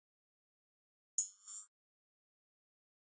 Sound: sound of ui zoom in

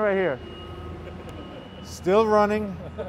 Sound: laughter

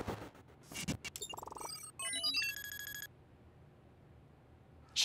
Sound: sound effects playing

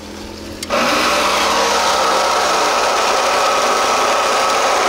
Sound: machine revs

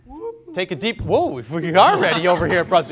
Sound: everyone giggles

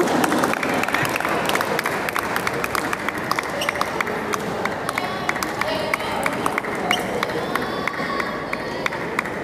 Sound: applause

